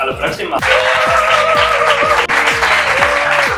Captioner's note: applause